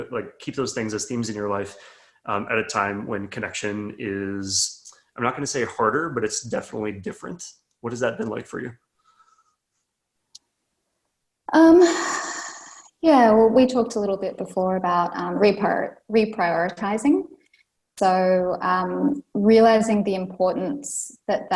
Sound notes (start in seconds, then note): 12.2 sighs